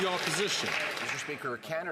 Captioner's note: some Applause